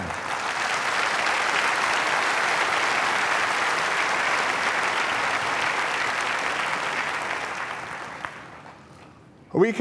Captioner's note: applause